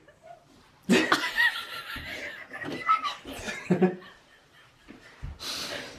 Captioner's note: laugh